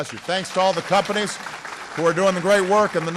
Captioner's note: applause